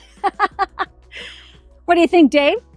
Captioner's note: laughing